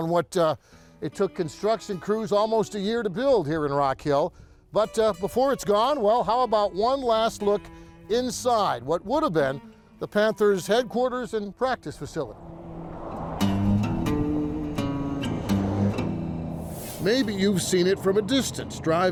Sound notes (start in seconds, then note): 13.2 bluesy music; 13.7 traffic driving